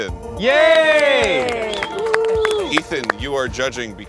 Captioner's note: crew cheers